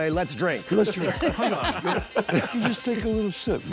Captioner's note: laughing